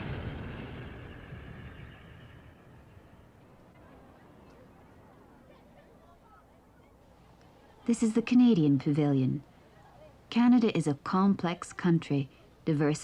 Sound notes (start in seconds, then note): 0.0 explosions end